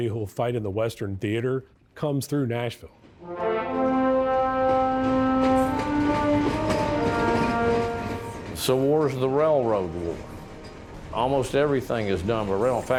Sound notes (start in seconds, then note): 3.2 dramatic upbeat music; 3.5 locomotive wheels clattering